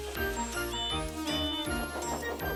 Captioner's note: toot toot